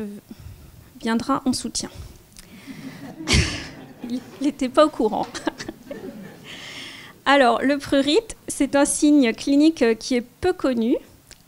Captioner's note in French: rires